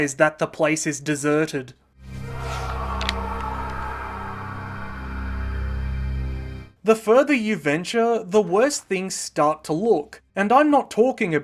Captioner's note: screaming